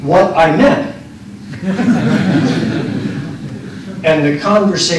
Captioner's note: laughter